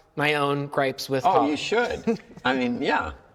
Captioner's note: chuckles